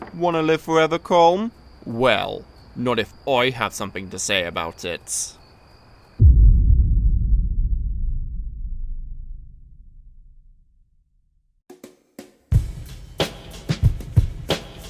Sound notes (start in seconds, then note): 6.2 dramatic thud